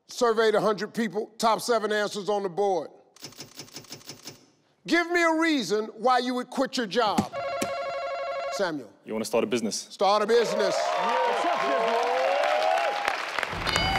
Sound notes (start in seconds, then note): 7.3 buzzer beeps; 10.2 audience cheer